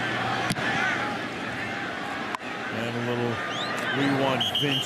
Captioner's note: crowd chanting, "we want vince"